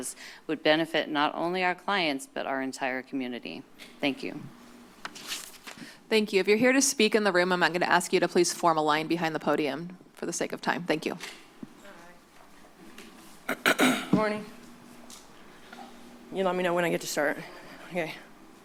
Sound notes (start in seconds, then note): 13.4 clears throat